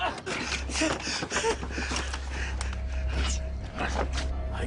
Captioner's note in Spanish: Quejidos